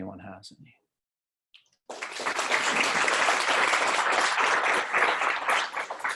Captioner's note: applause